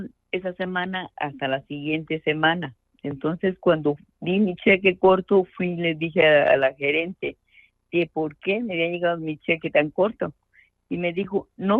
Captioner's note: speaking in Spanish